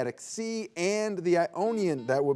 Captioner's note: buzzer beeps